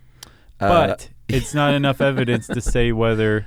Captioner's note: laughs